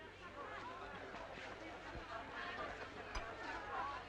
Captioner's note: crowd chattering